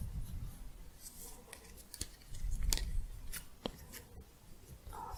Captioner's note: shuffling, scissors